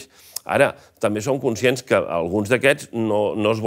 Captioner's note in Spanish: none